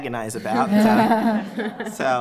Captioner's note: laughter